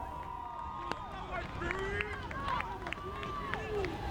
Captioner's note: crowd cheers